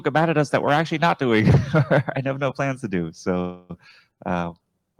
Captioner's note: chuckles